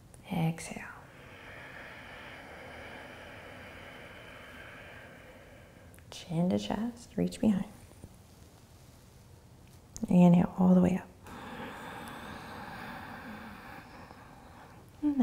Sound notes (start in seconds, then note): 0.0 inhaling; 0.9 exhaling; 11.2 inhaling